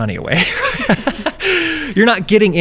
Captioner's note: laughing